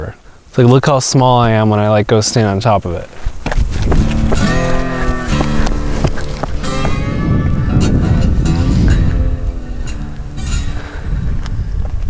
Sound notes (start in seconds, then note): 3.9 footsteps plodding